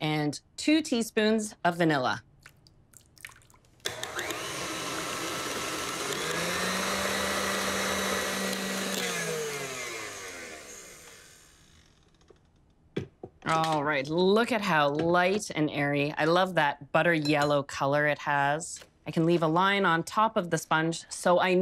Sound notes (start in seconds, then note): 3.8 mixer whirs